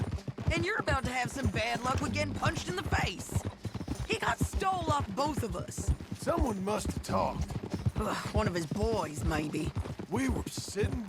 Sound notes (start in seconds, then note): 8.4 scoffs